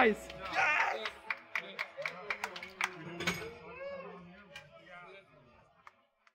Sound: applause

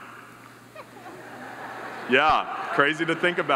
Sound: audience laughs

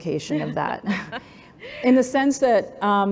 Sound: laughs

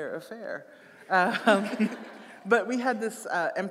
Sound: audience laughing

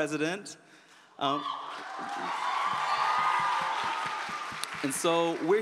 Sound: applause

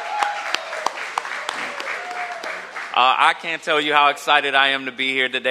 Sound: cheers and applause

